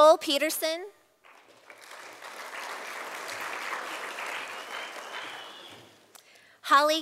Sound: sound of applause from audience

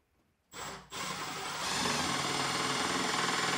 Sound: drill hums

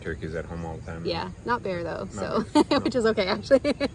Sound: laughs

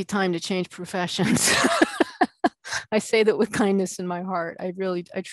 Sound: laughing

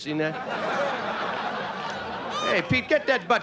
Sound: audience laughing

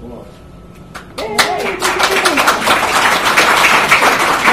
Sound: applause

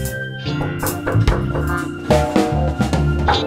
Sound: someone knocks on the door

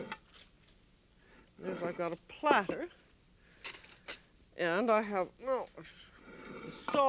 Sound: groaning

